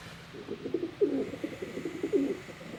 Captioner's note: pidgeons cooing